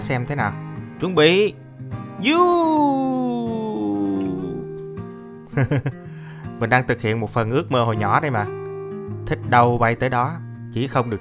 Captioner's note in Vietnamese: cười